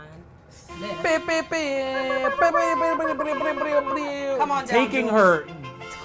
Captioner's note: both imitate air horns